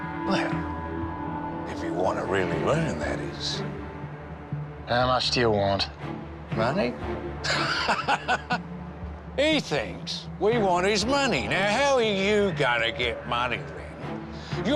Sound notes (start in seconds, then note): 7.4 cop laughs